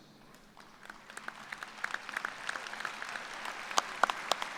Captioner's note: applause